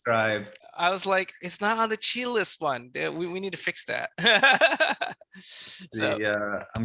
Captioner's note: chuckles